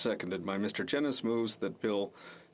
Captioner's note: speaking French